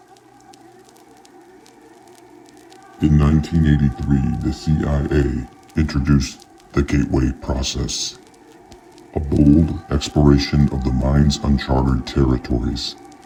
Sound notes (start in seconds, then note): 0.6 eerie music; 0.6 fire crackling